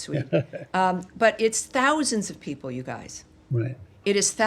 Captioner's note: laughter